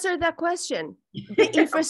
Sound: laughs

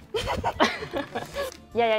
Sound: laughs

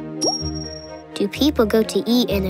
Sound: none

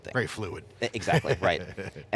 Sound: laughs

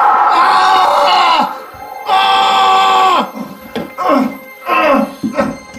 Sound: argggghhhhhhh!

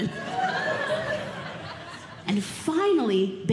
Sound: audience Laughing

